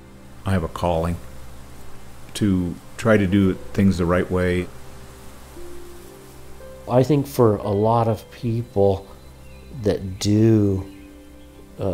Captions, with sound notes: [Water rushing] I have a calling, to try to do things the right way. [Birds chirping] I think for a lot of people that do, uh